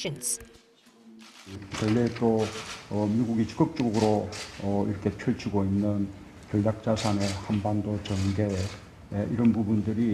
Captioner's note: Korean